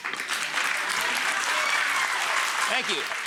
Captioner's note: audience applauding